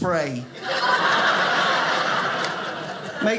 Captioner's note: audience laughing